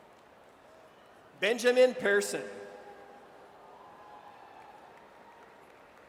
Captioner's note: audience cheers